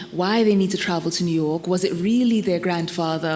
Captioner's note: none